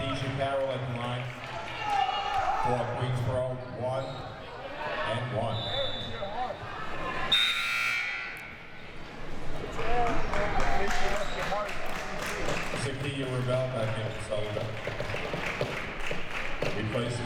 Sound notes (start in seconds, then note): 7.3 buzzer buzzing; 9.6 audience applauding